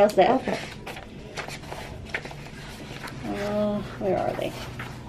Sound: papers rustling

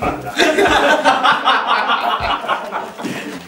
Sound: laughs

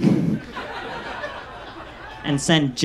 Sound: audience laughs

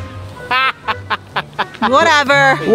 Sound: laughs loudly

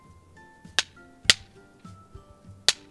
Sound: knocking; knocking

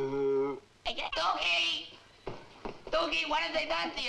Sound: stammers

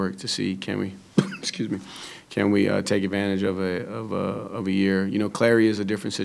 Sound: coughs

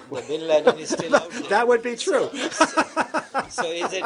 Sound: laughter

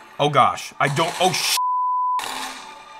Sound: gun shots firing

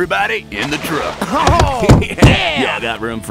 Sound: laughter

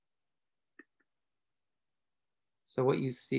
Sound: silence

